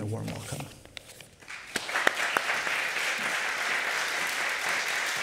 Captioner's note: applause